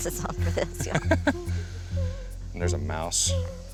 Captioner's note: laughs